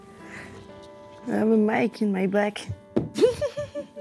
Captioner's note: laughing